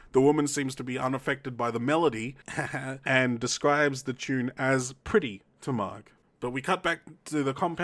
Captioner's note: heheh